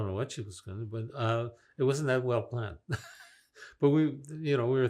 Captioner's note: laughing